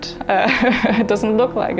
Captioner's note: laughing